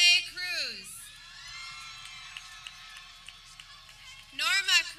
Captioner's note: people cheering